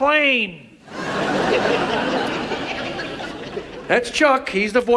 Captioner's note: audience laughs